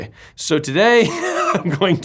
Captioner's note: laughs